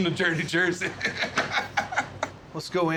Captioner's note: laughter